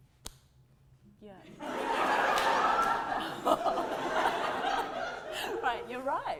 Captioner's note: audience laughter